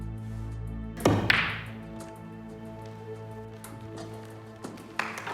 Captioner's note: balls cracking; people clapping